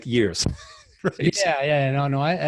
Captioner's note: laughs